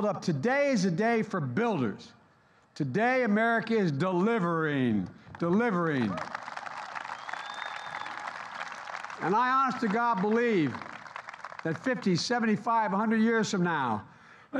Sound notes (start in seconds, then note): 5.2 applause